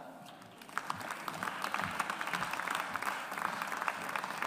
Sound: audience applauds

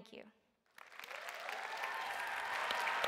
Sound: applause

